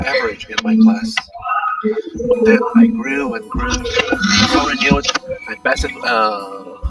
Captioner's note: random alien abduction noise